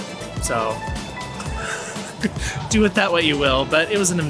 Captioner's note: laughs